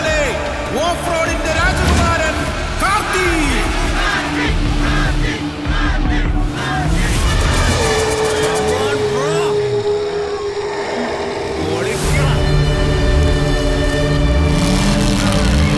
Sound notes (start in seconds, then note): 3.6 crowd Cheering; 11.6 car Sound; 15.2 crowd Cheering